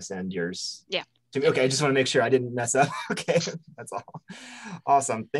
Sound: chuckles

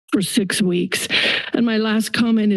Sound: inhales

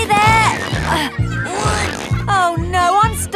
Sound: grunting

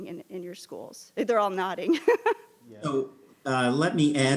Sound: laughs

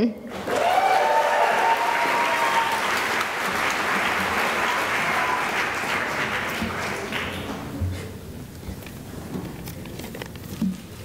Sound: cheering and applause

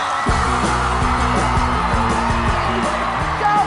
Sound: cheering; cheers and applause

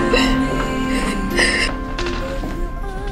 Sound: sobbing

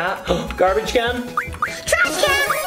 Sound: gasps

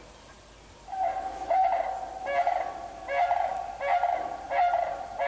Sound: cranes chirping lightly

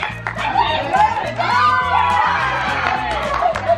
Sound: group cheers

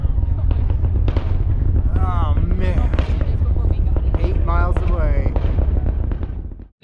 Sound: rocket sound crackles

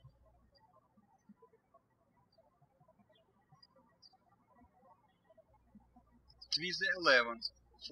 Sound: birds chirping

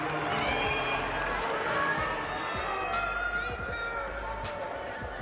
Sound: applause and cheering; shouting from audience

